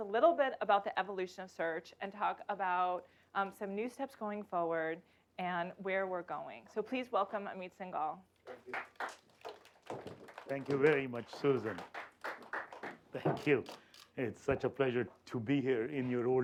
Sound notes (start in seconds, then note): 8.4 applause